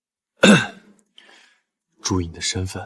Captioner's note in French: Tousse